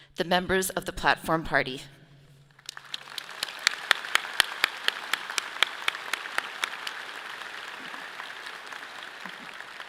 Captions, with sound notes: The members of the platform party. (audience clapping)